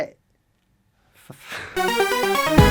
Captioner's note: sighs